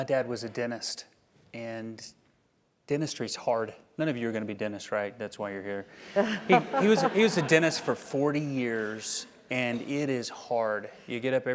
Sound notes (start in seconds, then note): 6.1 laugh